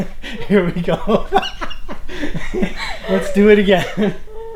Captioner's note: laughing